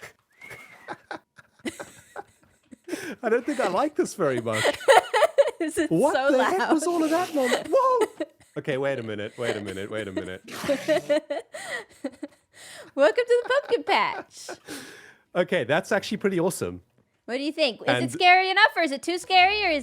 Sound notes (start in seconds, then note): 0.4 laughs; 4.2 laughs; 9.3 laughs